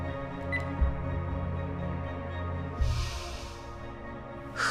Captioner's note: phone beeping off